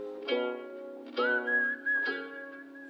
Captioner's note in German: Pfeifen